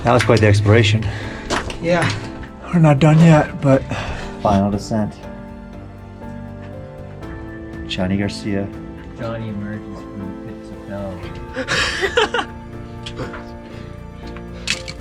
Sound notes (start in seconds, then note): 11.7 man laughs